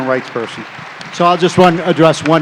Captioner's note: cheering